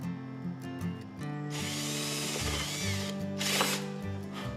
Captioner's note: drill whirring; breath blown